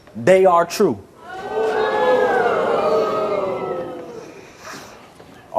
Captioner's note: audience oohing